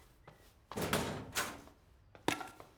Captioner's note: locker Door Clanks